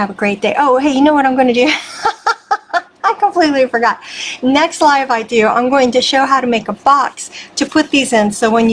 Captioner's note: laughing